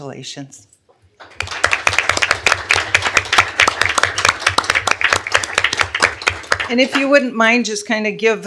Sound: applause

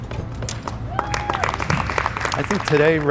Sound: clapping

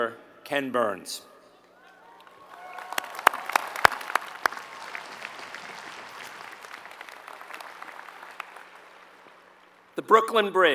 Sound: applause

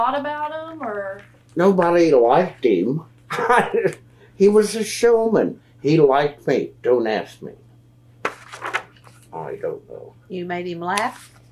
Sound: laughs

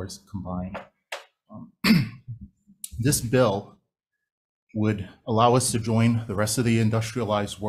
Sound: clears throat

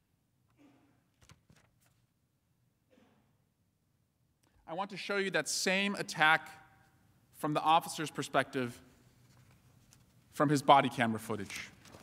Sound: silence

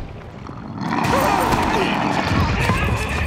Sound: roaring

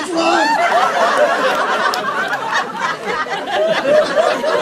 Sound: laughter

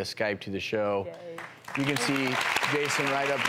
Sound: applauding

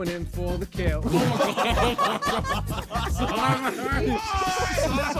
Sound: men laughing

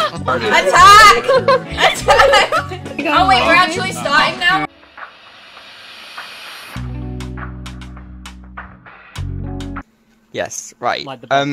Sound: laughter

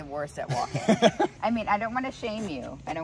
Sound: Penn laughing

